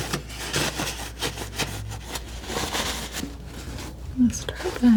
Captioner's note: scratching